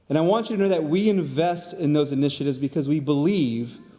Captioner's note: none